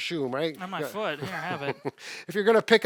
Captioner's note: laughs